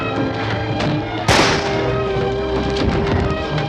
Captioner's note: gunshot